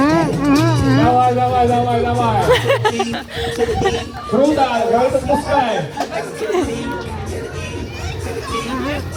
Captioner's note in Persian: خنده